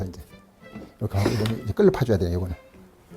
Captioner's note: planing sound